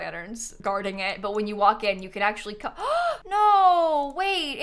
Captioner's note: gasps